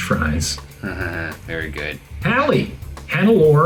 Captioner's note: laughs